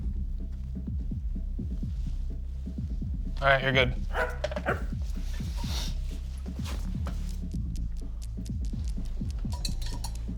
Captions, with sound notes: All right, you're good. (dog barking) (paws tapping)